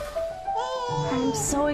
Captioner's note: gentle music; baby cooing